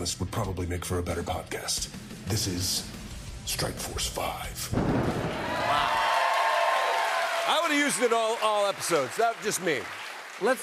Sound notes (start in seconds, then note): 4.7 thunder crashes; 5.1 cheers and applause